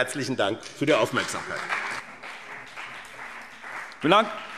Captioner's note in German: Beifall BÜNDNIS 90/DIE GRÜNEN und CDU